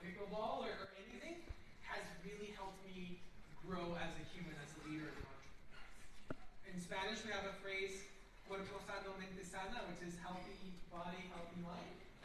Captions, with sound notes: Pickleball or anything has really helped me grow as a human, as a leader, as an entrepreneur. In Spanish, we have a phrase [SPEAKING SPANISH] which is healthy body, healthy mind.